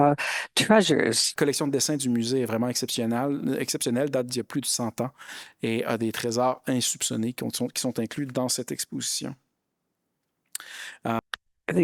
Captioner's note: speaking in French